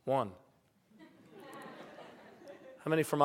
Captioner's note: laughter